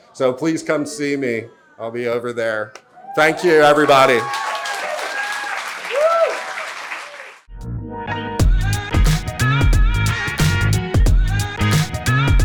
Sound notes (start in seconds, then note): 5.0 audience cheering; 5.0 audience clapping; 7.6 upbeat music